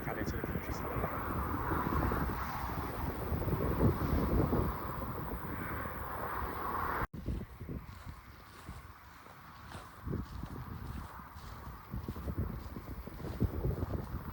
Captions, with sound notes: back out into the countryside (footsteps and fading traffic noise)